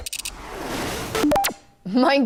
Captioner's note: clicking; text swooshes